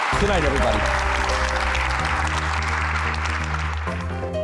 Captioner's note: applauding